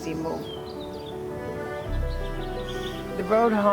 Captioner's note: birds chirping; soft serene music